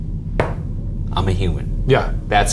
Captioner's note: knocks on table